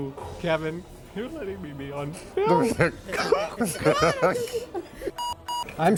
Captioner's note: laughing